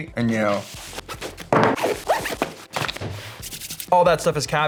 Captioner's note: zipper noise